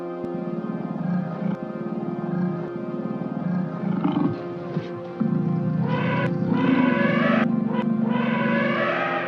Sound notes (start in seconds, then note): 0.5 animal growling; 5.1 elephant trumpeting